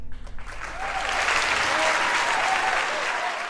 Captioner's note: crowd cheers